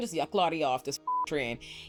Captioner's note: beep